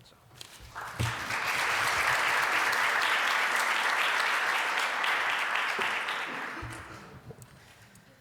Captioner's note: applause